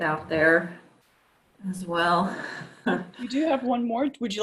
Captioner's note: giggles